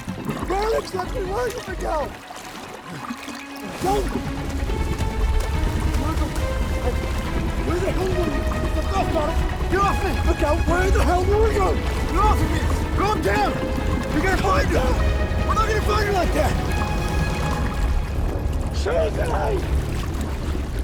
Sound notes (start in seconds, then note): 4.9 suspenseful dramatic music; 4.9 water splashing; 9.3 Miguel yells indistinctly